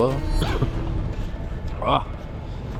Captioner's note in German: Husten